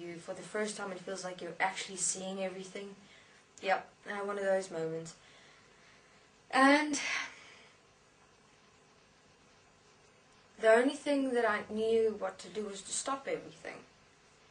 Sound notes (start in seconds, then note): 7.0 sigh